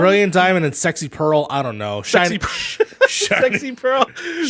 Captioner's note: laughs